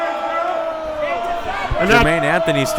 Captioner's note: crowd booing